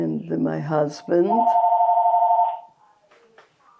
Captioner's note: phone ringing